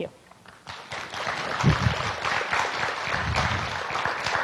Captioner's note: audience clapping